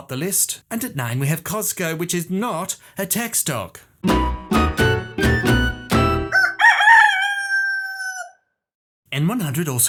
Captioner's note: rooster crows